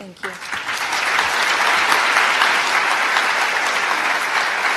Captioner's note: applause